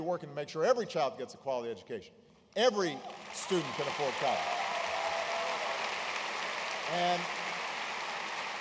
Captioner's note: applause